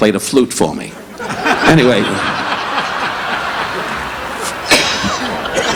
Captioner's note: audience laughing; Don laughing